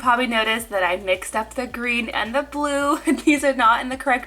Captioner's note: laughing